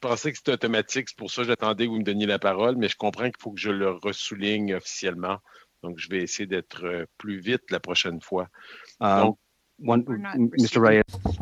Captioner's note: speaking French